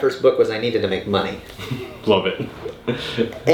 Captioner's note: laughing